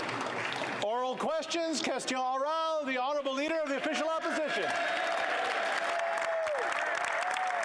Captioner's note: applause